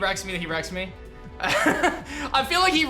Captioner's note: laughs